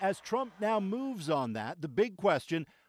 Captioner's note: cheers and applause